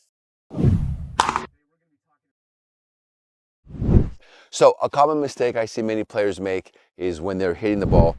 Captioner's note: whooshing